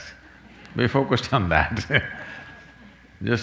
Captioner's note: laughs